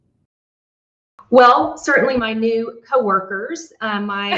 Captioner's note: laughs